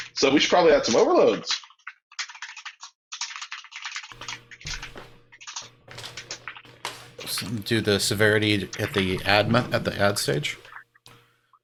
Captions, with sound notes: - So we should probably add some overloads. (keyboard keys clanking) - Do the severity at the admin at the head stage.